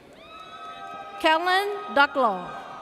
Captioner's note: audience cheers